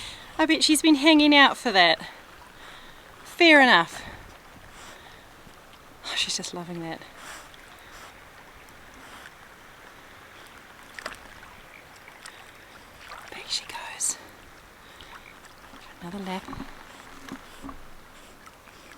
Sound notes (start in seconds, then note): 6.8 splash